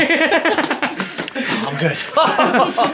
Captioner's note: group laughing